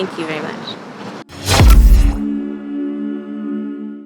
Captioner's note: graphics swooshing